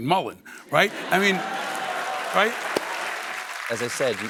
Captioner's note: applause